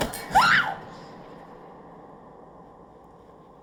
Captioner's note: Sam screaming